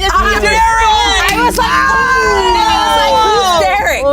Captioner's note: everyone exclaims